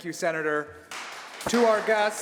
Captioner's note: applause